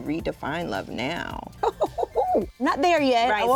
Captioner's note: laughs